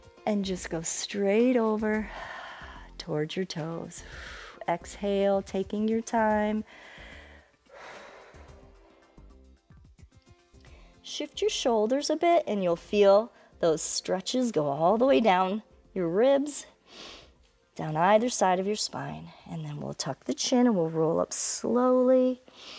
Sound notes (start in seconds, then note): 7.3 inhales and exhales